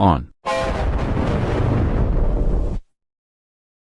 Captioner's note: 3D Giga Shadow Windows XP Shutdown Sound